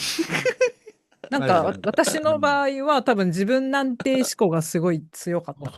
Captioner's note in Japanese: 笑い